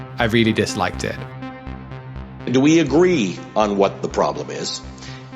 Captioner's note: soundbite of archived recording